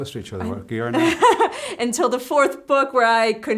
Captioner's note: laughs